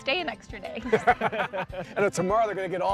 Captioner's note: all laughing